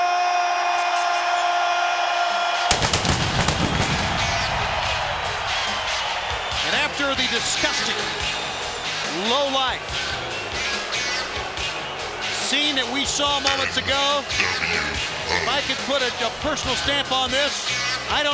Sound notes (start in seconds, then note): 0.2 crowd cheering; 2.7 fireworks popping